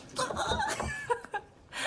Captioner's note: squeals